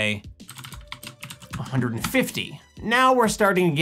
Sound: keyboard clicks

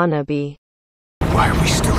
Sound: long pause

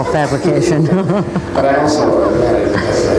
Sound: laughing; laughs

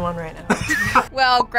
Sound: laughs

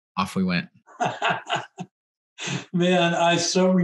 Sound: laughs

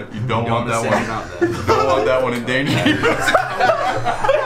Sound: group laughter

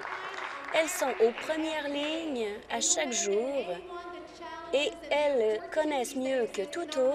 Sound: applause

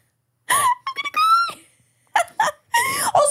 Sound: laughs

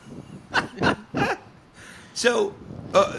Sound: all laughing

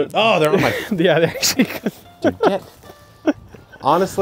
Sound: laughs

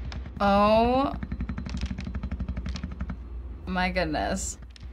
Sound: plastic clicks

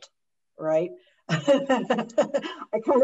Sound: laughs

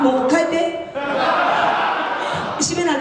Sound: laughs

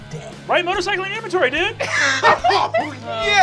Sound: group laughs

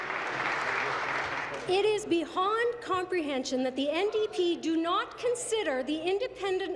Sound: applause

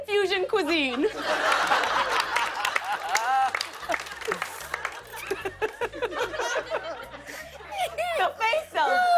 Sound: laughter and applause

